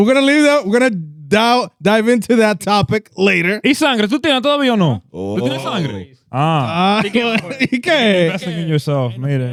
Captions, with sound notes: We're gonna leave that, we're gonna dive into that topic later. (Speaking In Foreign Language)